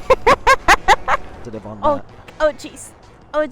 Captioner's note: laughing